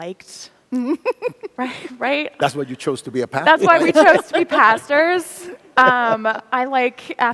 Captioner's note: laughter